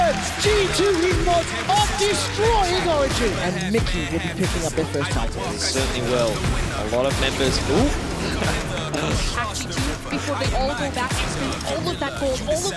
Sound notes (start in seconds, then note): 8.2 laughs